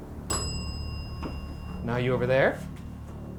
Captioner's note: bell dinging